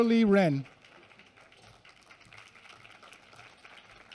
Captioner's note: applause